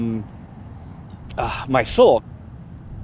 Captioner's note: sighs